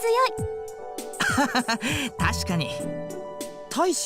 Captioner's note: laugh